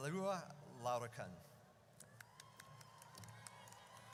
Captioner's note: audience cheers